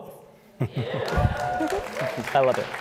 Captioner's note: applause